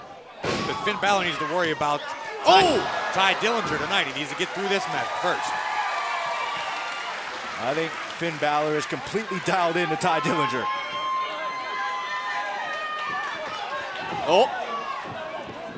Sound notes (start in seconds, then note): 6.2 cheers & applause